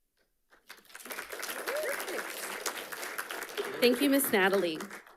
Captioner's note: audience applauding